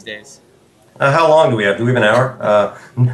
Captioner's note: laugh